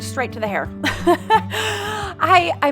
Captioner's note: laughs